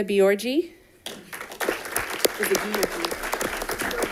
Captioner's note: audience applauding